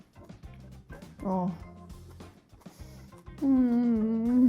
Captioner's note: giggles